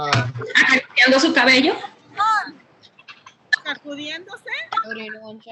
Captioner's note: woman speaking Spanish